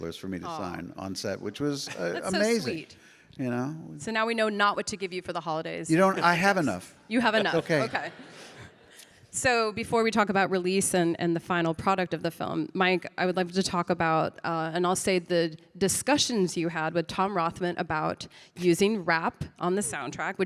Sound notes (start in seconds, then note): 7.2 audience laughing